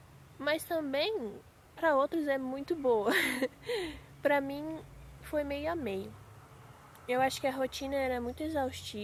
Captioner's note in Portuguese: risadas